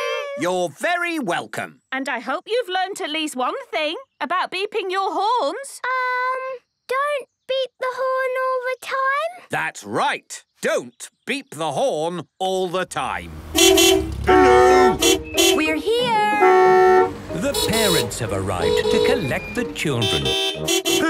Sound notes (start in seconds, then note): 13.3 beeping; 16.2 beeping